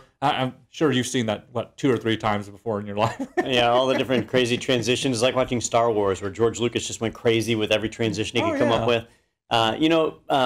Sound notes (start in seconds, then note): 3.0 laugh